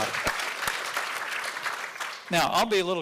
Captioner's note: audience applauding